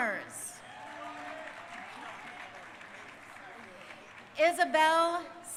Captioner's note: crowd cheering